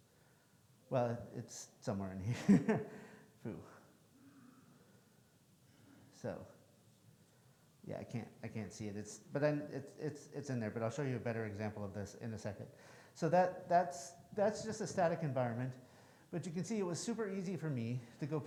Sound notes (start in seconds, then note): 2.3 laughs